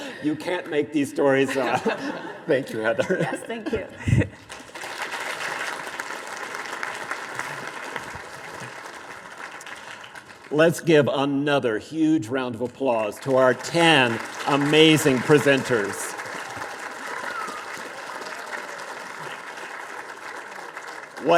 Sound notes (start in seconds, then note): 0.0 both laughing; 1.4 both laughing; 3.9 laughs; 4.4 audience applause; 15.0 audience applause